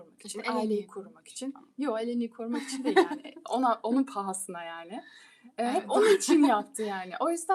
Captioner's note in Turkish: kahkaha